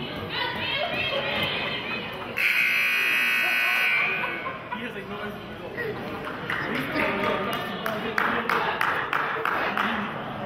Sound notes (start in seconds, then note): 2.3 buzzer honks; 8.1 clapping